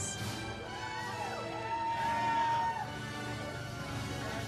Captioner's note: audience cheers